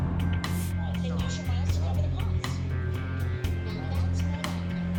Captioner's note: chatter